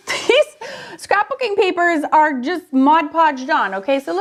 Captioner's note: laughs